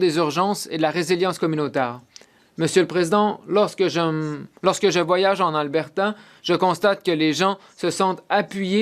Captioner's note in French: voix de l'interprète